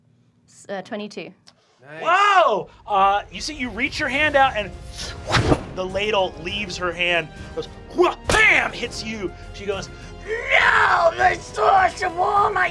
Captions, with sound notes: - 22. - Wow, you reach your hand out and (whooshing) the ladle leaves her hand and goes wha-bam, hits you. She goes, no the source of all my power!